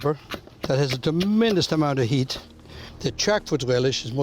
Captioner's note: chopping